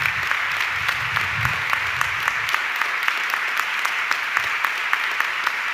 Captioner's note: audience clapping continues